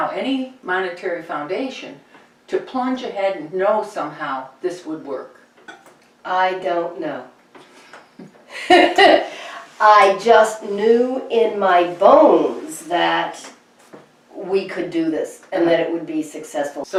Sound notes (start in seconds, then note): 8.2 chuckles